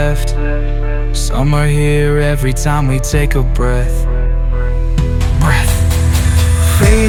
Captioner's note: breath